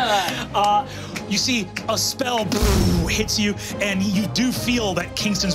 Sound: blows air

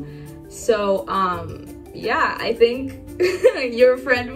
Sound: giggles

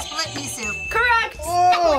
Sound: buzzer rings; bell rings

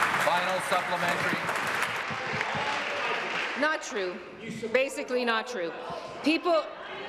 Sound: applause

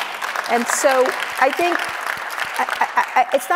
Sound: audience applauds

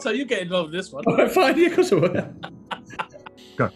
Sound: laughing

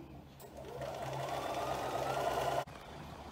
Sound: sewing machine whirs

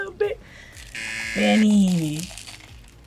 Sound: buzzer

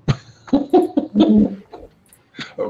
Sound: laughs

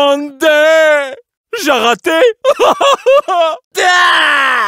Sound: crying

